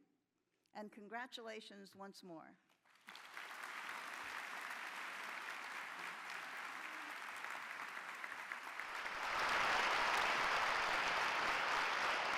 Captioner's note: applause